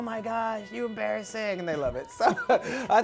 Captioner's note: laughs